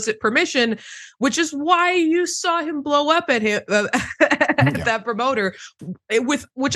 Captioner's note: laugh